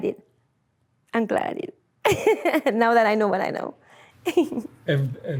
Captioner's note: laughs